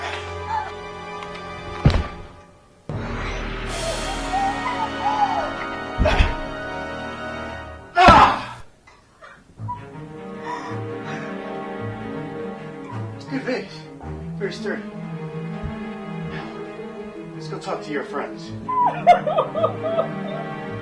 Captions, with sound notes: [ grunt, scream, thud ] [ Jenna cries ] [ Primal scream ] [ thud of vase ] [ crying ] This is a good vase. Very sturdy. Let's go talk to your friends. [ crying ]